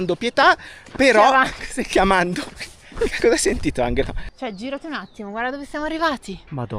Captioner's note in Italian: risate